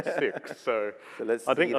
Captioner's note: laughs